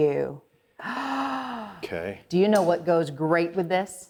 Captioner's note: sighing